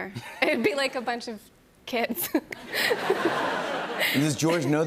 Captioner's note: laughs